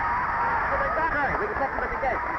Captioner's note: drowned out crowd cheering